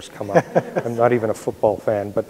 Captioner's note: audience laughs